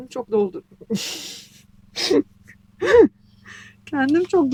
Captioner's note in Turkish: homurdanır